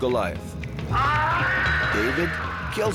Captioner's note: Goliath screaming